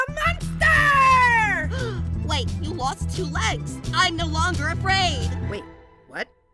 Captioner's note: gasp